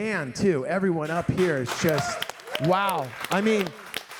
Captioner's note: audience applauding